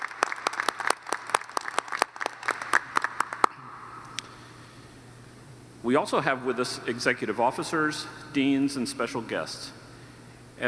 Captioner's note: applause